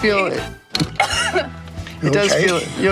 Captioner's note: coughs